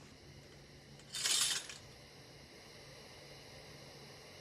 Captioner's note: low hum that builds